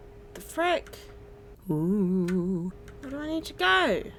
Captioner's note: making ghost noises